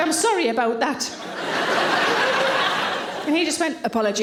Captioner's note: audience laughing